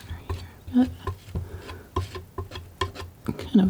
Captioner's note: tapping